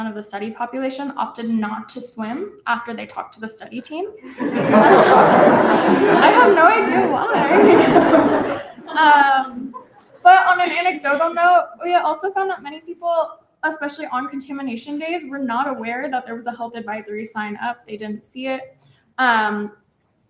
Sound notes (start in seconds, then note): 4.2 laughter